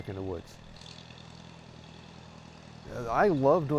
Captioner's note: tractor engine